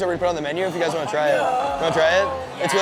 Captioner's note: gasps